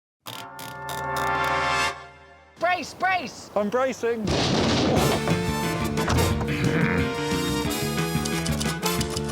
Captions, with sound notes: [typewriter turning] -Brace! brace! -I'm bracing. -[thumping] -[theme music playing] [grunting] [typewriter clacking]